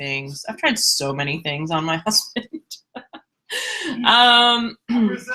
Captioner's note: laughs